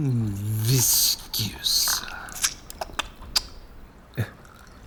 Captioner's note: Sounds of wine pouring, Drechen slurping